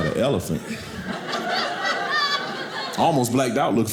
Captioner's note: audience laughing